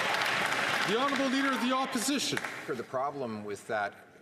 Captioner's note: some Applause